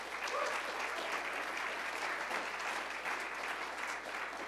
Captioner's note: applause